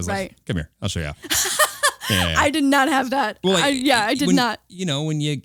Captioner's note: laughing